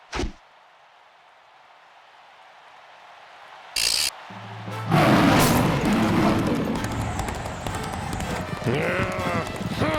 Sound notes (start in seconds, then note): 4.9 loud roar; 7.7 growl